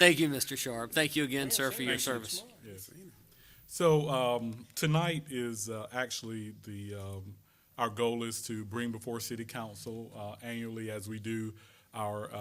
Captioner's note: laughter